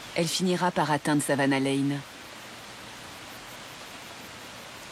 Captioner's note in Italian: pioggia battente